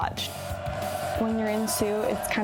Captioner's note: crowd cheering